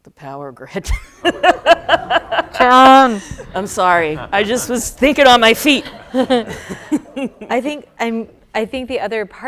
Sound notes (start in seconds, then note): 0.9 laughter